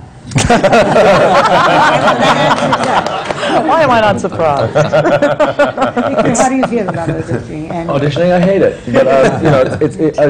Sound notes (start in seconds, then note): 4.4 laughter